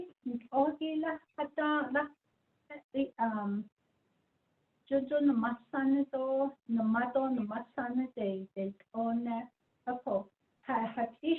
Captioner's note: speaking in Diné